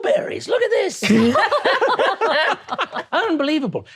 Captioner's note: all laughing